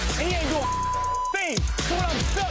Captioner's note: beep